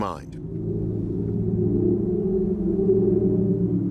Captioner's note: whistling